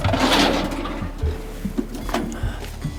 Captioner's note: fumbling